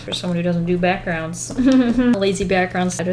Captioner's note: chuckles